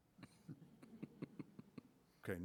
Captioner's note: laughter